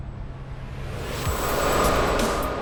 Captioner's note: wind whooshing; upbeat techno music